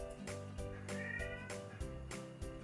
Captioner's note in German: miau